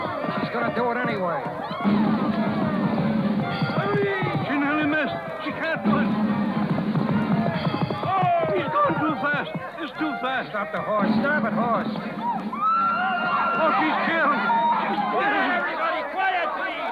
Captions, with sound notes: She's gonna do it anyway. [cheers and applause] She nearly missed. She can't do it. Oh, he's going too fast. It's too fast. Stop the horse. Damn it, horse. Oh, she's killing it. Get it, everybody! Quiet!